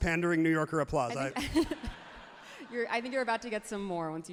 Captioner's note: everyone laughs happily